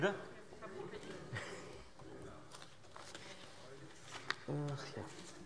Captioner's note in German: Heiterkeit